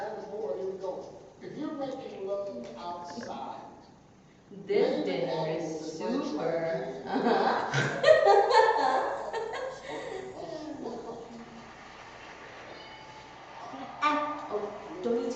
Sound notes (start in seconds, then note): 8.6 laughs to herself